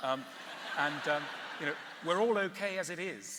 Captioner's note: laughter